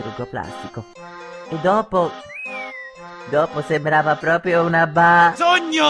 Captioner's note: whistle